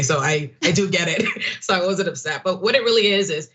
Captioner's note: laugh